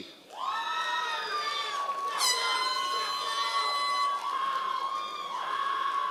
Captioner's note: members of the audience cheering